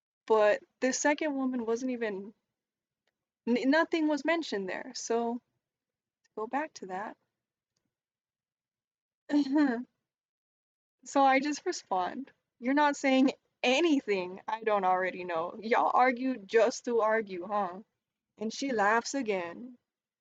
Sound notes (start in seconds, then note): 9.3 chuckle